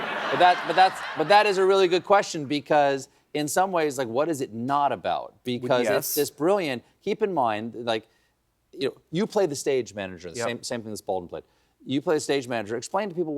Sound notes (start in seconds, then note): 0.0 laughter